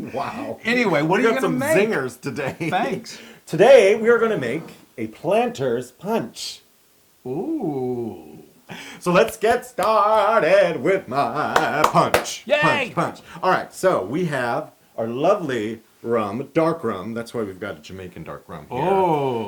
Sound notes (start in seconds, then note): 2.3 laugh; 11.5 applause